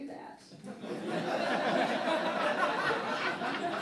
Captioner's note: laughing